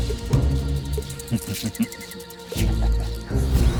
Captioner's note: chuckles darkly